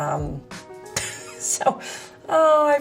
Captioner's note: laughs